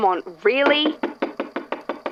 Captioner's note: knocking again